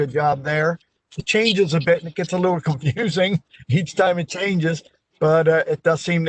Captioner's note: laughter